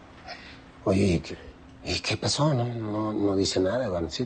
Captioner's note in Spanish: none